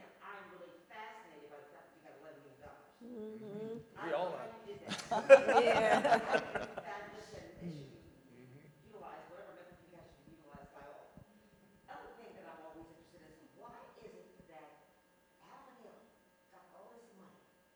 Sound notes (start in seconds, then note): 4.8 panelists laughing drowns audience member